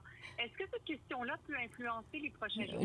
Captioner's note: speaking French